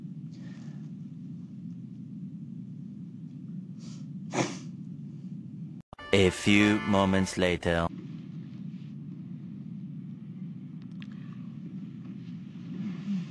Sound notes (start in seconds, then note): 4.3 snorts